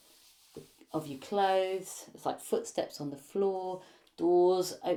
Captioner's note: fabric rustling